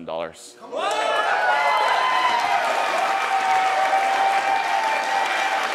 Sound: attendees cheering and applauding loudly

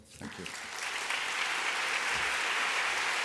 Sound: applause

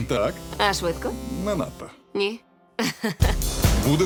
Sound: chuckles

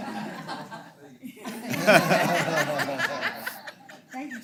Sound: laugh

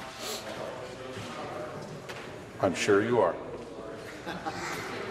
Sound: conversation din

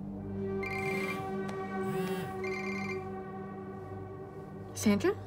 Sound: cell phone ringing

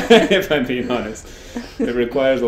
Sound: laughs

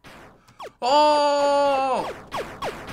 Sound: firing

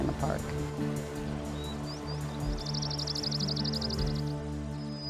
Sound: birds trilling and chirping

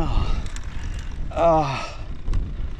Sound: sighs; grunting

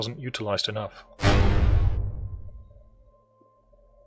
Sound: bang

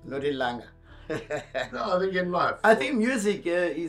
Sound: laughing

